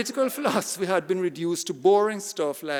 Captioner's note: audience laughing